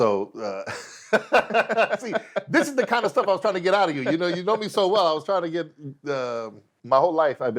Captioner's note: laughs